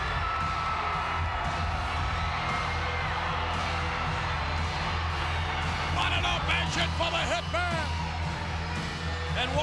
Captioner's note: applause